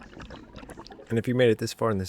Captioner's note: water Sounds